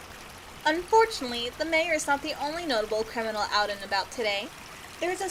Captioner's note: water Flooding slows, slow growing of Cicidas sounds